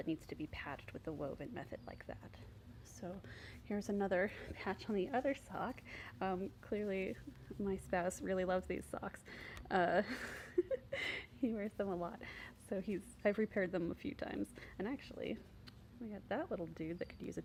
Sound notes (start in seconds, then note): 10.0 giggle